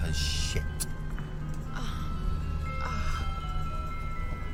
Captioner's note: moans